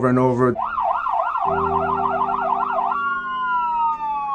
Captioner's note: sirens